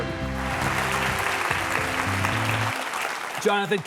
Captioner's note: audience clapping